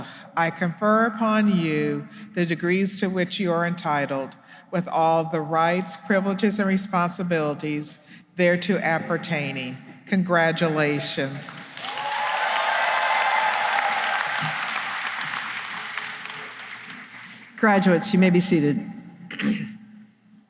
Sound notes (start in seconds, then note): 11.6 cheering and applause